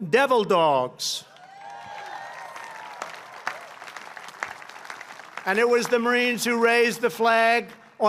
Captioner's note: applause